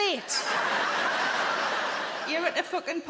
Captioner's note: audience laughing